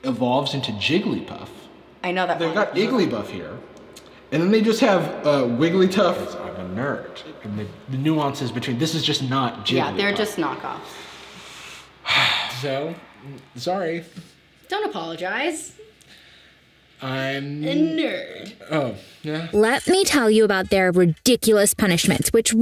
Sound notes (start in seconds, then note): 0.2 echoing; 3.1 echoing; 12.0 sighs